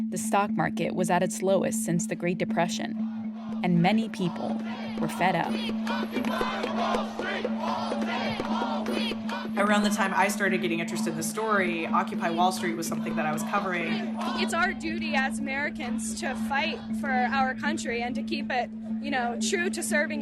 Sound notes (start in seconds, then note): 3.5 soundbite of protest; 6.5 chanting; 14.1 soundbite of archived recording